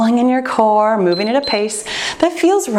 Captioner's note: timer beeps